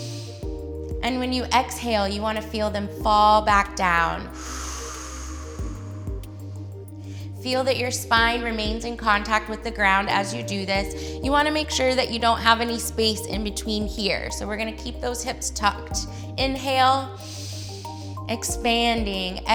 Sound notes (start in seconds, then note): 0.0 inhales; 4.2 exhales; 17.2 inhales